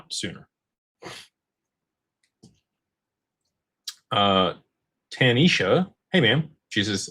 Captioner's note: snorts